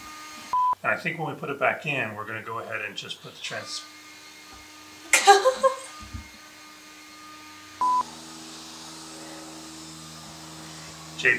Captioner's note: loud whirring off camera